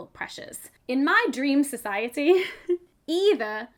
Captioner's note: chuckles